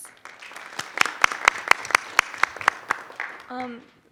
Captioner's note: group applauds